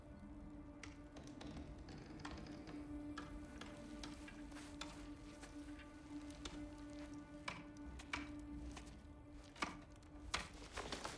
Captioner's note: tapping